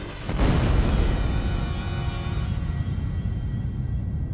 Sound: explosion rumbles; ominous music

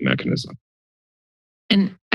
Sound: silence

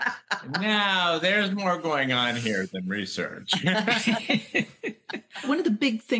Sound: laughter

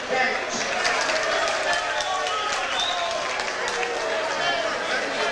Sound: audience applauds

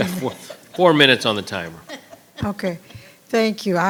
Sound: all laughing

